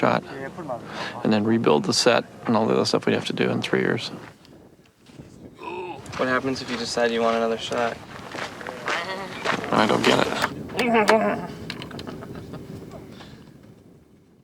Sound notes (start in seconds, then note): 10.8 man Groaning; 12.2 chuckling